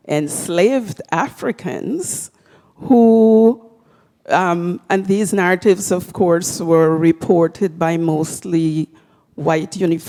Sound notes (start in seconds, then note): none